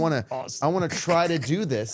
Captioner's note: both laughing